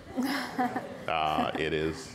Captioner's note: audience and panel laughs